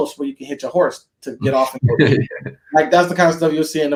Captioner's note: laughs